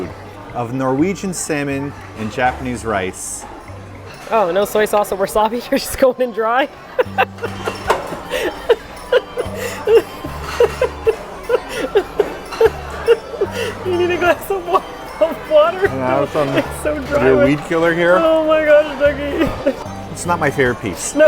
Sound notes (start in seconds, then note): 6.9 laughing